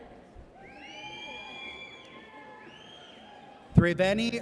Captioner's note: audience cheers